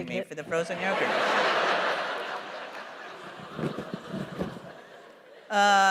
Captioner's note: laughter